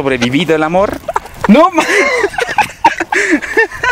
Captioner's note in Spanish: risas